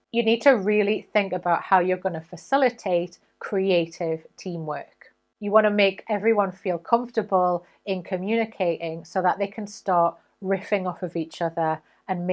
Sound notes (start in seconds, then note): none